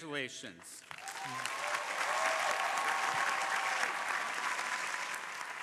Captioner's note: crowd applauding